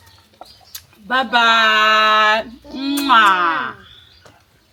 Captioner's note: kisses